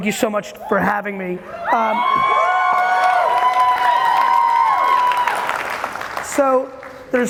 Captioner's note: audience cheering and applauding loudly